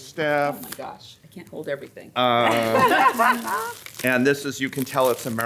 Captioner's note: laughs